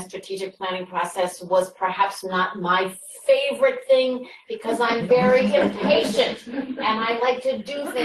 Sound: laughter

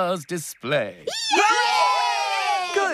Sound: machines Cheer

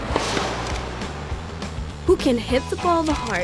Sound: camera shutter clicks

